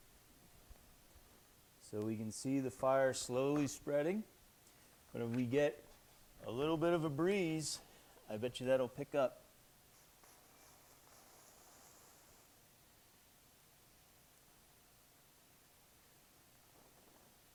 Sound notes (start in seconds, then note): none